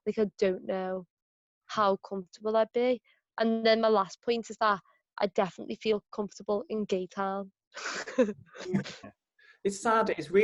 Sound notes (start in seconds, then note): 7.8 laughs